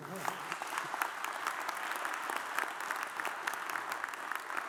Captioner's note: audience applauds